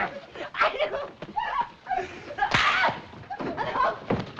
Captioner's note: yelps